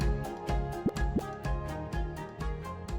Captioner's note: graphic pops